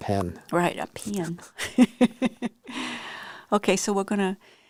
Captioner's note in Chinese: 笑聲